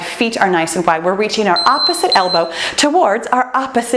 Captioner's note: timer beeps